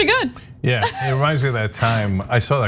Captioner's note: laugh